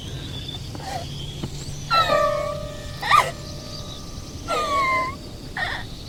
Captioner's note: Ira cries